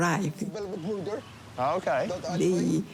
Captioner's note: friends chatter